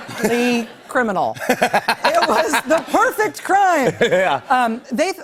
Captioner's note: laughter